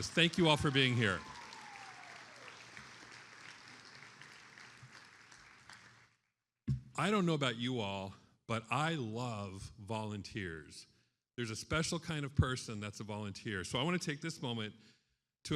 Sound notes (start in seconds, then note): 0.0 attendees applauding